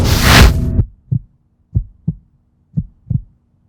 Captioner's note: heart beats